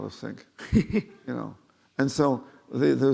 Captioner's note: laughing